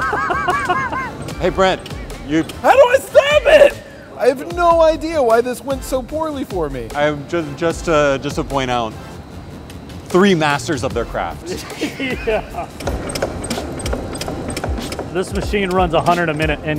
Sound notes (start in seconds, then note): 0.0 laughs; 14.6 rhythmic knocking